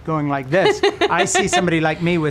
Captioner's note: laughing